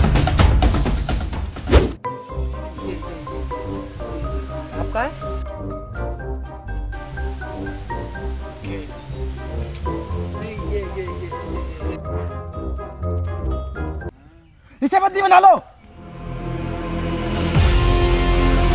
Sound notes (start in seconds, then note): 7.7 in Hindi